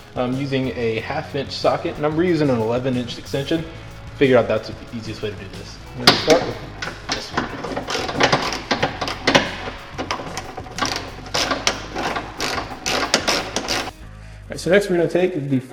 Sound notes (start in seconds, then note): 7.7 banging and twisting of tools